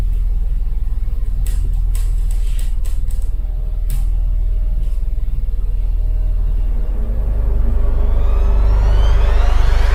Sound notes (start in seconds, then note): 1.8 creaking; 6.5 dramatic music